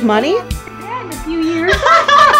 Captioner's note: ladies laughing in the background